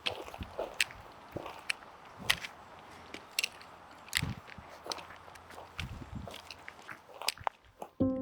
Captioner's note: soft footsteps crunching through gravel